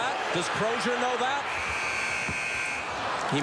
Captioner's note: buzzer